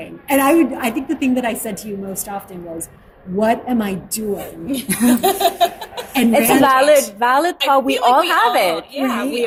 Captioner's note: laughter